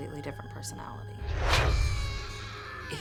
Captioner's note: screaming